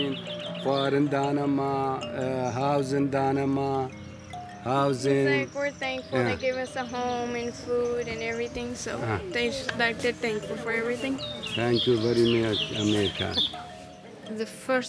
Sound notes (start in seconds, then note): 1.8 foreign language spoken; 4.3 foreign language spoken